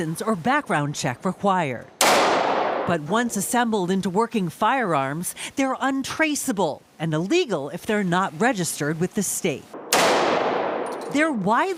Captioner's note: gunshot